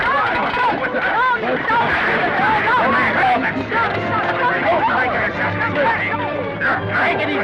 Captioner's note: commotion; orchestra plays